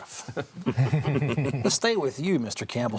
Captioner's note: all chuckling